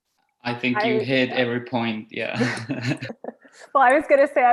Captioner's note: all laughing